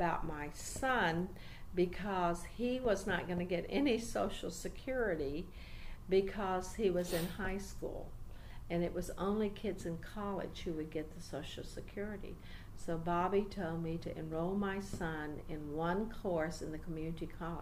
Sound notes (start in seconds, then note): none